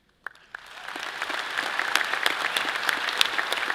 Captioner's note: all applauding